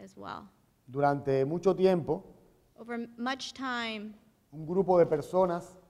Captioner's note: speaking in Spanish